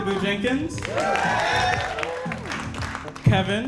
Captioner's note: audience applauding